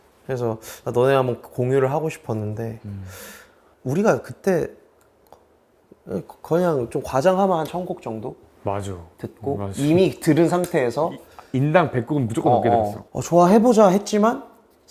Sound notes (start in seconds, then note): 11.5 confident